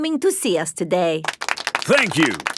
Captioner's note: applauding